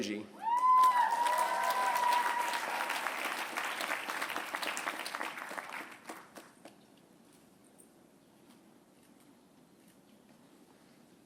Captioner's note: applause